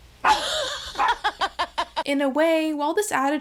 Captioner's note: laughing